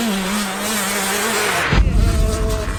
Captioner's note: whoosh sfx